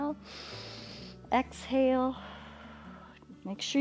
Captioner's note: inhales; exhales